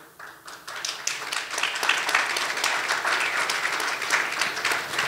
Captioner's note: audience applauding